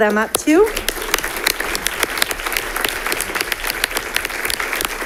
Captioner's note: audience applauding